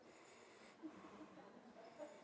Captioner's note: laughter